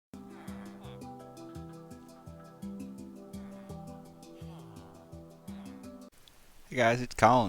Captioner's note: villager Sounds